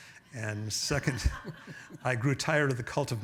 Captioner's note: audience members laughing